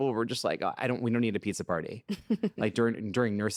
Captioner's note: chuckles